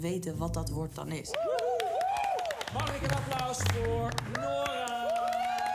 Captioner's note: cheering